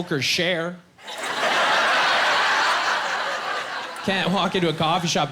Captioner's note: laughing